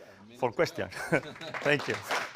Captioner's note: laugh; applause